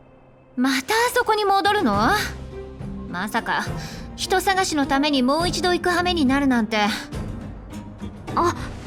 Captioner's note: sigh